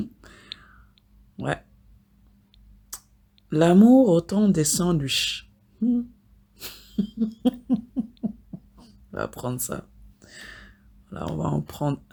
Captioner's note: laughs